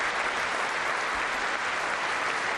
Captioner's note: applause